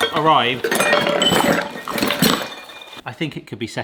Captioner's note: metal rattling